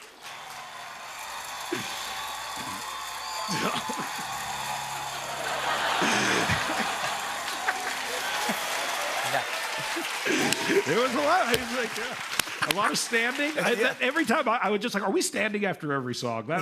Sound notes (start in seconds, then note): 0.2 cheers and applause; 5.0 laughter